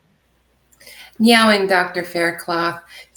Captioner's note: speaking native Language - translated